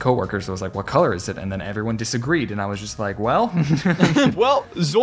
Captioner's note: both Laugh